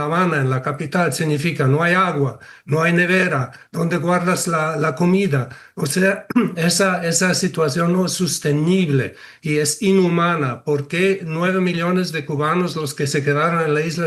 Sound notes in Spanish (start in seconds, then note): 6.2 carraspeo